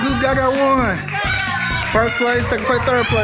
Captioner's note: kids clapping